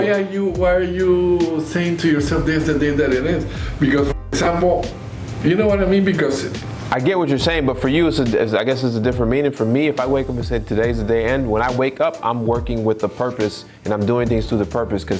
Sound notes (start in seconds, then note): 4.2 audio skips